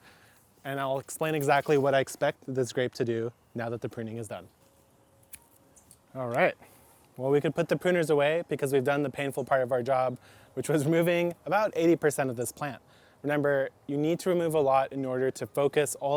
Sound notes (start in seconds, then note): 5.2 trimmers snip